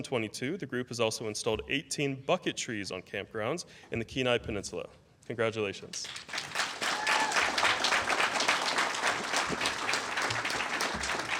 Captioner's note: applause